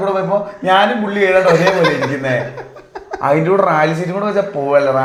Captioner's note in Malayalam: പൊട്ടിച്ചിരി